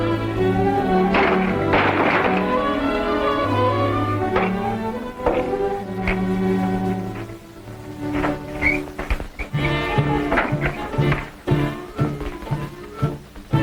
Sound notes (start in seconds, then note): 0.5 door crashing; 9.5 mysterious suspenseful music